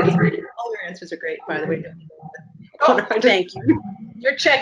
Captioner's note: murmurs